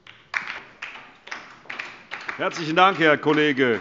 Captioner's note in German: Beifall DIE LINKE